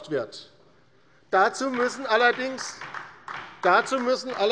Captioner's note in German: Beifall bei Abgeordneten der LINKEN